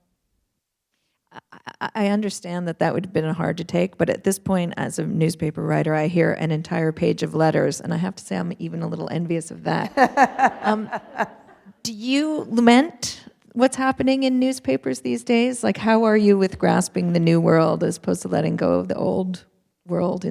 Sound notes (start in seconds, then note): 9.8 laughter